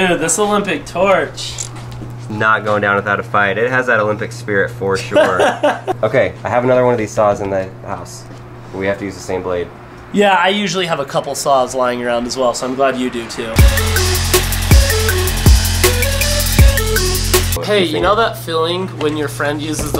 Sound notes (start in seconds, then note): 12.9 hip-hop music; 13.3 electric whirring